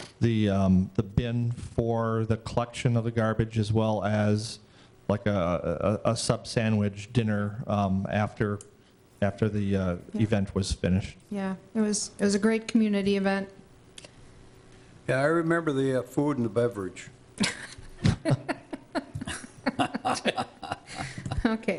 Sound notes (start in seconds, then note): 17.4 group laughing